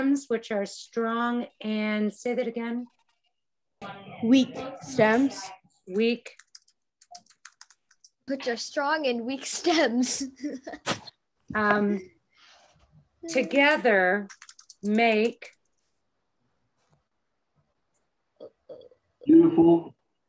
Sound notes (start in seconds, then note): 6.9 keyboard clicking; 11.6 laughs